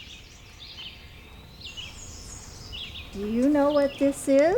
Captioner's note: birds singing